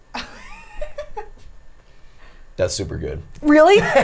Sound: laughs

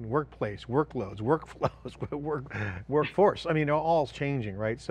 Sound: laughs

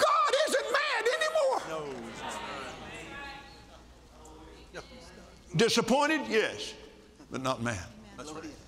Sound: audience Agrees

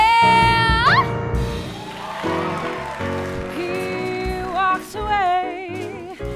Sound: applause

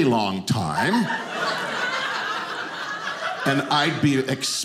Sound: audience laughing

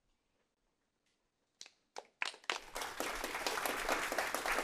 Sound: applause

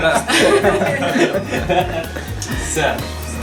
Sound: laughing

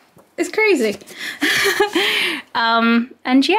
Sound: laughs

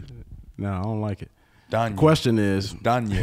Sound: laughs over speaker

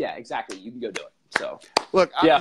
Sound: applause

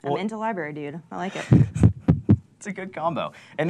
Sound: laughing

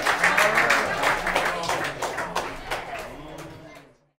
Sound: crowd chattering

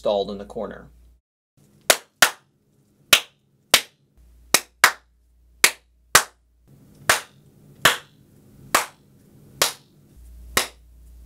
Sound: clapping noises

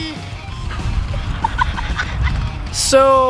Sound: laughs

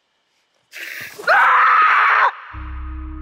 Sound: screams

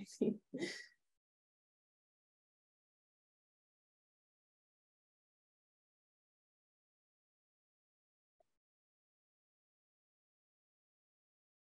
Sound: laughter

